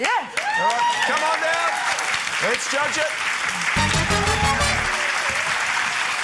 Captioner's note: cheering, applause